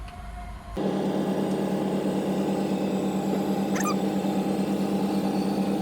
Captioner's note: slide machine groaning